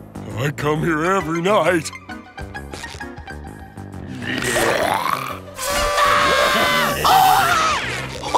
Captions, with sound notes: I come here every night. [grunting] [screaming]